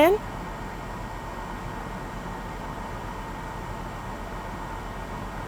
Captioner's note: air conditioner whirring